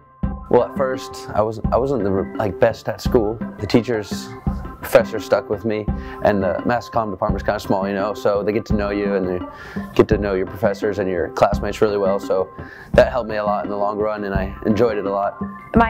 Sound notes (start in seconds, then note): none